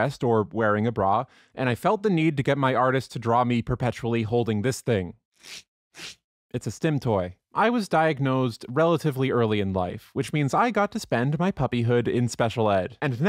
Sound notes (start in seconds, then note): 5.4 velcro scratch noises